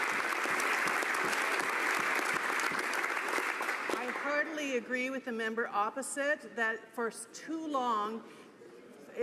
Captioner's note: some Applause